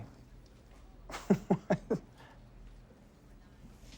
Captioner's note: laughs